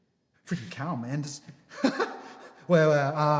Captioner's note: laughs